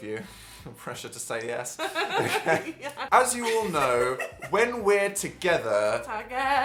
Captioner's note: laugh